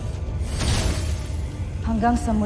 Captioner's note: mystical music playing; scepter thuds